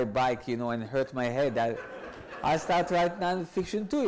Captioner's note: audience laughs